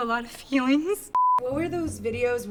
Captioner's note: beep